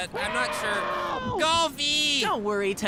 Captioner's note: distant screaming for help